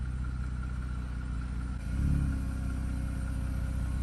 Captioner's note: car engine hums